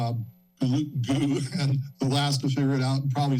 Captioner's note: giggles